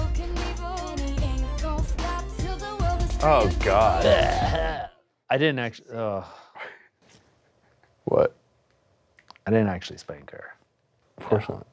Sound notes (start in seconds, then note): 3.7 gags